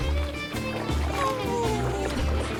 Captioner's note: dog yawning